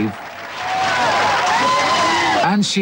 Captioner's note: crowd cheering